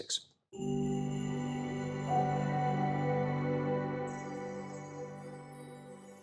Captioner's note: chime Sound